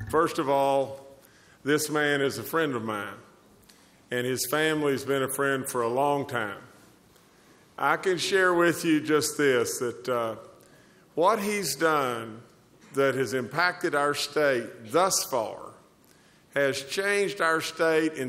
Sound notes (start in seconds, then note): none